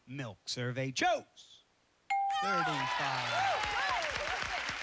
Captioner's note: cheers and applause